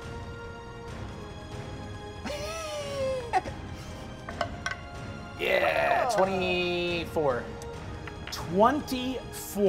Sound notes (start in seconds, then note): 0.1 suspenseful music; 2.2 players laughing